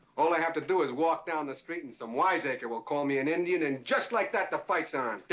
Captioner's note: none